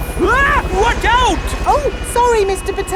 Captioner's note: screams